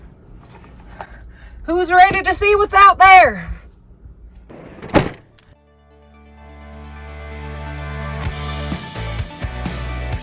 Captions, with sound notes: Who's ready to see what's out there? (door slams) (bright music)